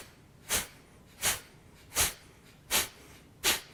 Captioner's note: sharp exhaling